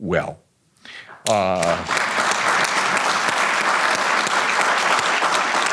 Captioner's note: audience applauding